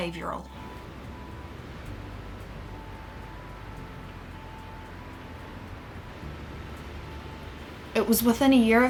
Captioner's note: sounds of waves crashing